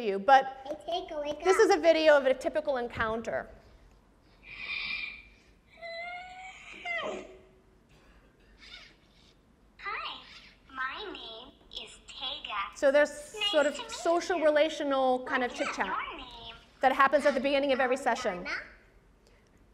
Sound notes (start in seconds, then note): 5.8 child wails